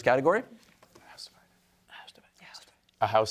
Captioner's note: team whispering